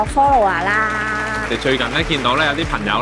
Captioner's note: clap hands together